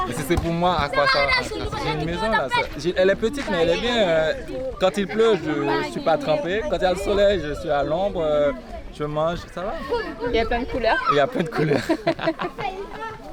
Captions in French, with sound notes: Mais si c'est pour moi? A quoi ça sert? J'ai une maison là...Elle est petite mais elle est bien quand il pleut je ne suis pas trempé quand il y a le soleil je suis à l'ombre je mange, ça va! Et y'a plein de couleurs? Et y''a plein de couleurs! [ Rires]